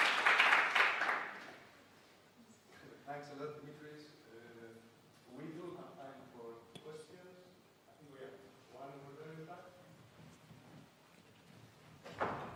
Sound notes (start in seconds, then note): 3.1 male Voice